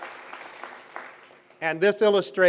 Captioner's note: applause